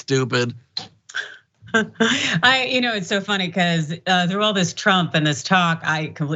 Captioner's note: laugh